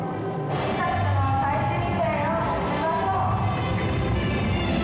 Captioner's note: speaking Japanese